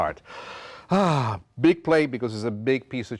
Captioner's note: breathes deeply